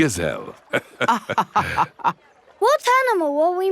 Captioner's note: both laughing